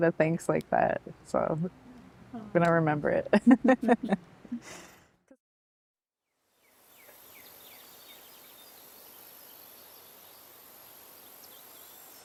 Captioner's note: laughter